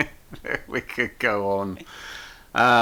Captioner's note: laughs